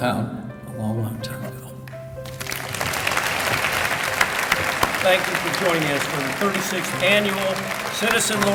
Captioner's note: applause